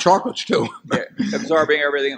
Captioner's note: laughs